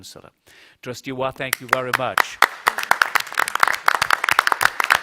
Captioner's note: applause